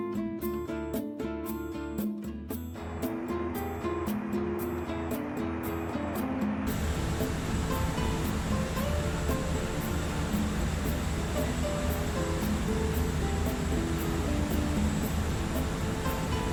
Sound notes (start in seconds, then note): 3.6 plane engine whirring; 8.8 uptempo mellow music continues